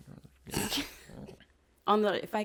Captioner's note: laughs